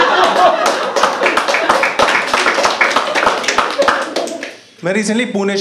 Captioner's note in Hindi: हँसना; ताली बजाना